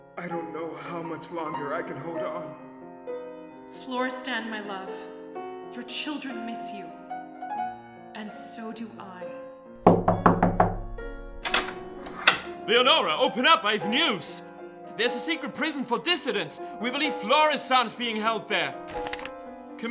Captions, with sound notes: - I don't know how much longer I can hold on. - Florestan, my love, your children miss you. And so do I. (loud banging) - Leonore, open up! I have news! There is a secret prison for dissidents. We believe Florestan is being held there.